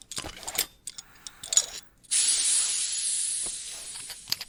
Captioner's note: Bastian's helmet decompresses as he removes it